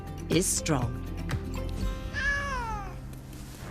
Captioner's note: cat meows